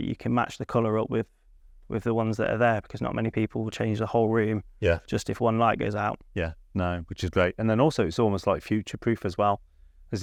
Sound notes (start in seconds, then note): none